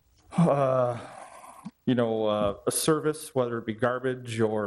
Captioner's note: sighs